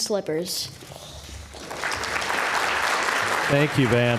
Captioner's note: applause